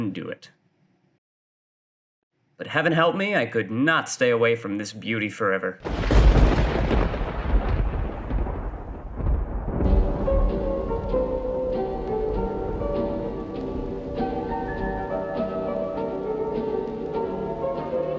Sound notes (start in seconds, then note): 6.1 thunder strikes